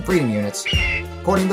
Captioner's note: eagle call